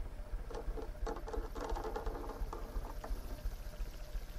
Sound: scratching

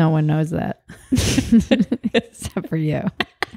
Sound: both laugh

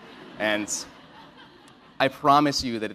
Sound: laugh

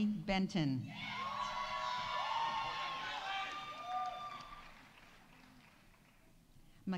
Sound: audience cheering; audience applauding

